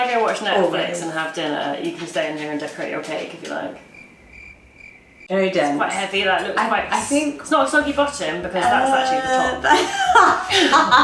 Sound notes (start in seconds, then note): 3.4 crickets chirp; 9.1 laughs